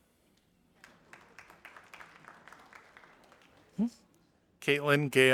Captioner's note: audience applauding